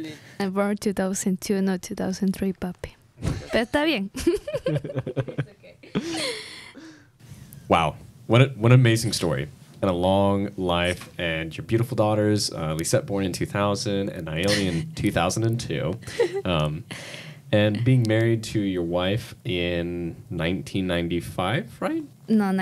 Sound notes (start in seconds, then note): 3.7 speaks in Spanish; 4.2 laughs